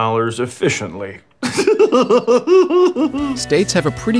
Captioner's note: laughs